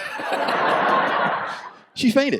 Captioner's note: audience laughs